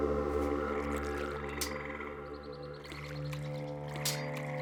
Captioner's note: birds chirping